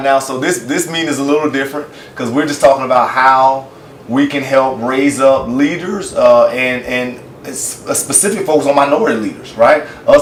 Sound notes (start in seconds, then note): none